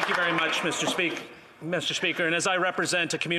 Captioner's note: applause